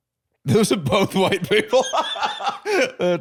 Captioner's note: laughs